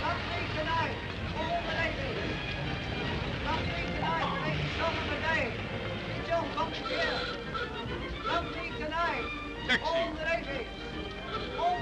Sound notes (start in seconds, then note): 6.6 horn hoots